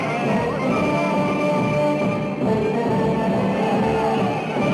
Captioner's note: people shouting